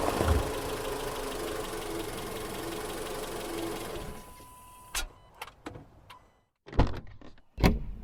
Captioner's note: car doors open and close; car parks & turns off